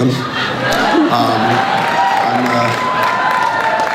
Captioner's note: crowd cheers